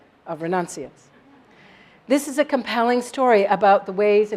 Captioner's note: laugh